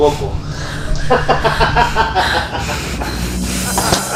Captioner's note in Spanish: risas